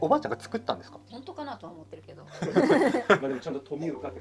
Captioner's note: laughs